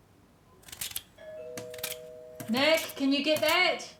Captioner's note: doorbell ringing